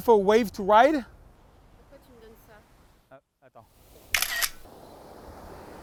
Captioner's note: foreign language; camera snaps and beeps